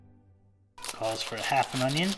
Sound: onion skin crinkles

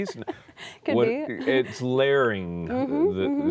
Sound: laughter

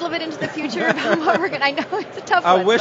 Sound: laughs

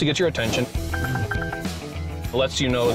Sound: alert tone

